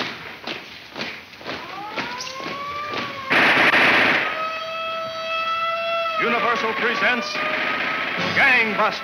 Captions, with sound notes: (siren blares) (gun fires) - Universal presents Gang Busters!